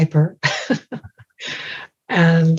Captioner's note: laughing